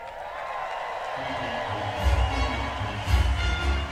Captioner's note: cheering